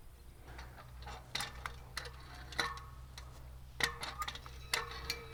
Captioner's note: metal clunking